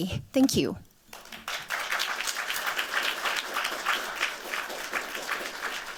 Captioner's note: applause